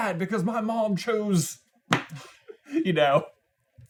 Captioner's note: laughs